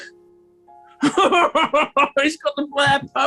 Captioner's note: chortling